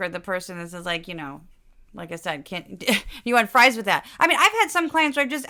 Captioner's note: laugh